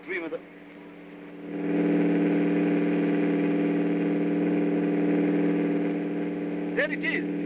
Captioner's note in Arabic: هدير الطائرة